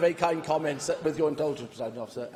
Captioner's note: laughter